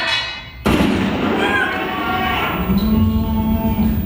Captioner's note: gunshot